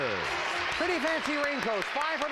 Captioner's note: audience applauding